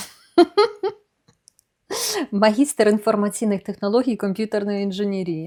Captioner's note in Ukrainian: сміх